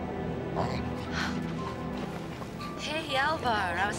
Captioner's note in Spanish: Alvar lloriqueando; música de caja de música